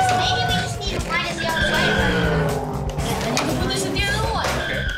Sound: screeching tires

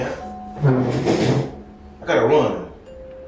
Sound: chair skidding

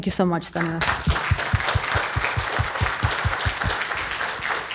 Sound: applause

